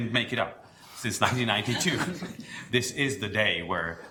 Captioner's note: Board members laugh